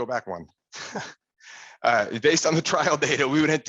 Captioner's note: chuckles